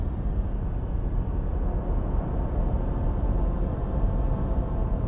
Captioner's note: engines rumbling